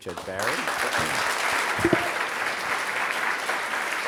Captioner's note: applause